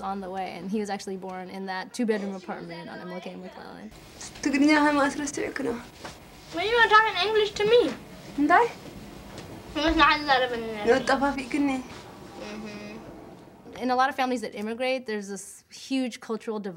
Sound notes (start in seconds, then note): 3.5 speaking Tigrinya; 9.2 conversing in Tigrinya